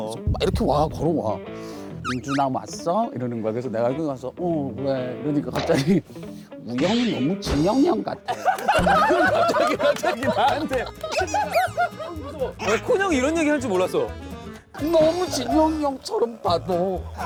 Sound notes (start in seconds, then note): 8.2 laughing